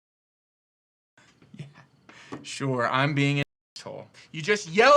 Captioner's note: chuckles